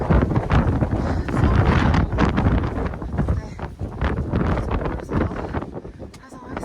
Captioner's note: wind muted